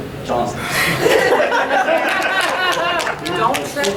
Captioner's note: audience laughing